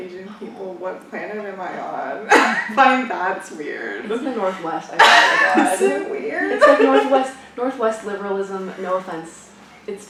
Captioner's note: laughs